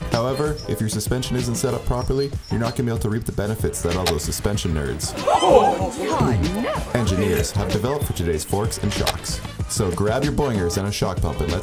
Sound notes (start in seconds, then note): 5.0 clearing throat; 5.4 people gasping